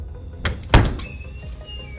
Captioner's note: upbeat suspenseful music; door thumps